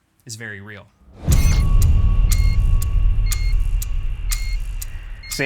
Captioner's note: clock ticking